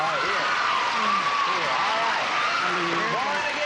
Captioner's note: applause